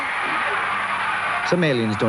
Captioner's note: crowd screaming